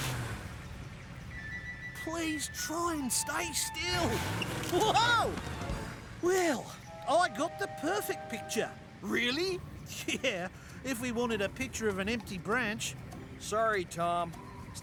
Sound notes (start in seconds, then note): 6.2 sarcastically